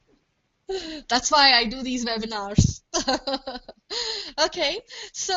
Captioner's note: laughs